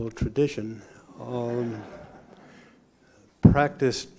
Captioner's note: laughter